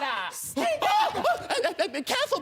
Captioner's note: hooting and hollering